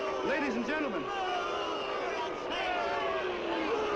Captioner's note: crowd booing